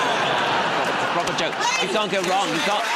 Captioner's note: laughter